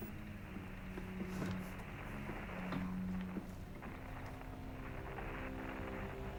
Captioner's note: whining; tense instrumental music; static hisses